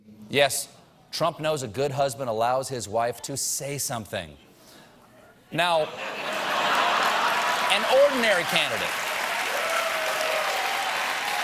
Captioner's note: laughter